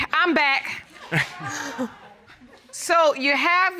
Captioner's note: laughs